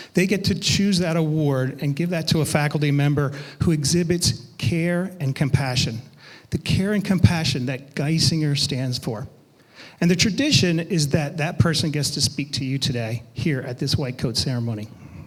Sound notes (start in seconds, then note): none